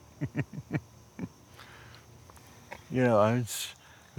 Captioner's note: chuckles